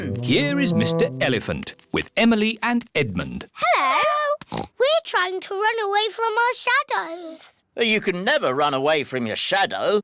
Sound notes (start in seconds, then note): 4.5 oinks